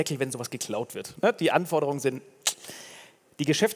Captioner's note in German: Schnalzgeräusch